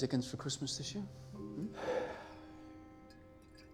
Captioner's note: sighing